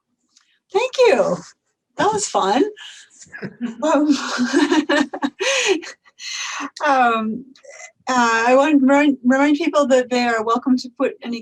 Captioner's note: laughs